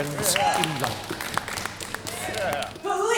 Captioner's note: crowd commotion